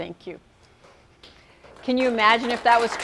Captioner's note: applause